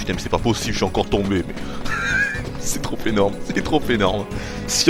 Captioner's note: giggles